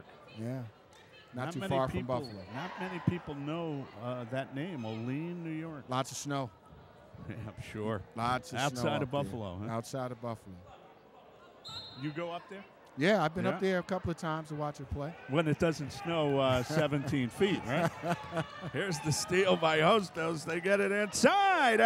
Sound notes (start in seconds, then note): 17.5 laughs